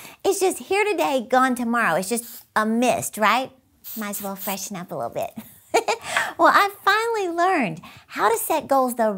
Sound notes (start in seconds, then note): 5.5 giggles